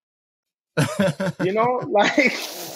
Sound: laughing

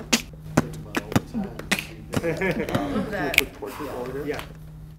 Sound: beat boxing

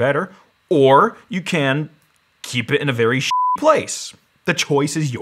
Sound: beep

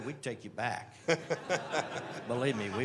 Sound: laughter

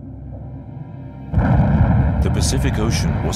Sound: explosion

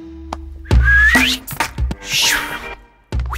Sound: whistles

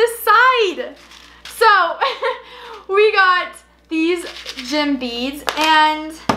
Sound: laughs

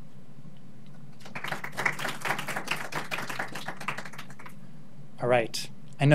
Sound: audience clapping

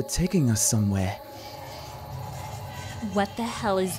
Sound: deep growl

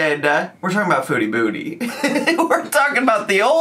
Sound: laughs

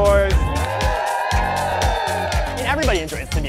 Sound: group cheering

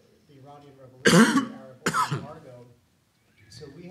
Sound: speaker drowned by coughs

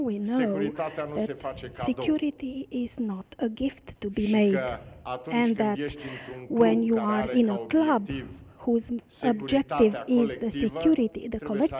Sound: speaking in romanian; speaking in romanian

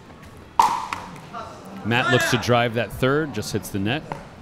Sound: ball bouncing

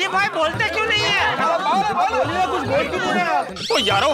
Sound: indistinct chatter

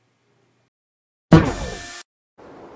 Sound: short laser drill sound

